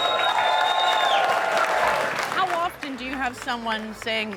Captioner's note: cheers and applause